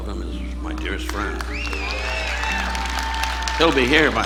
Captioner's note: audience applauding